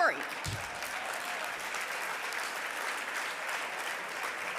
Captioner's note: audience applauding